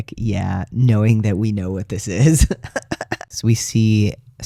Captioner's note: laugh